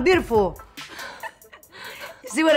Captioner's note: laughs